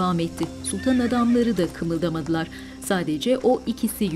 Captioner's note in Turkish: At kişneme sesi